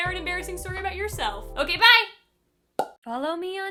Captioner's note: pop